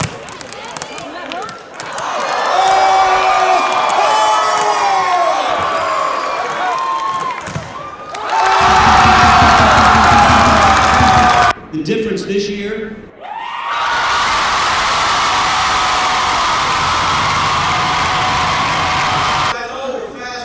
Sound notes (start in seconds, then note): 5.1 cheering and clapping; 13.2 cheering